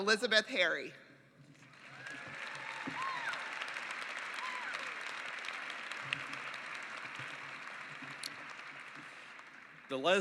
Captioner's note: applause